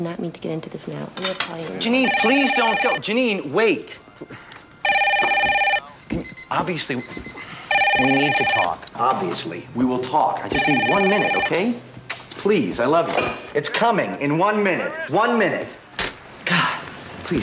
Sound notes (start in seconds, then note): 1.8 phone Ringing; 9.3 pager Beeping